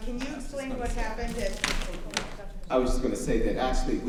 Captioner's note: clattering drowns out voice